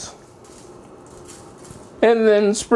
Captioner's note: sprinkling salt